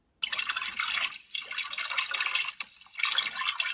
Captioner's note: water gurgles